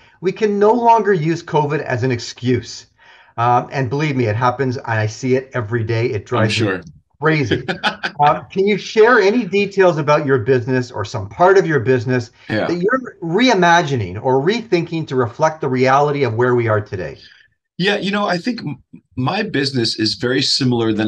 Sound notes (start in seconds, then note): 7.3 laughs